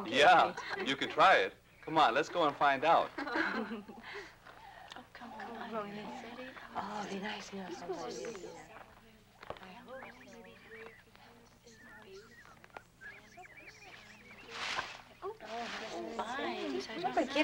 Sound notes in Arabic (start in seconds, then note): 9.8 تغريد الطيور; 9.8 نساء يتحدثن